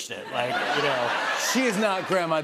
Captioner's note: laughter